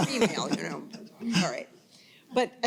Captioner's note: panel and audience chuckling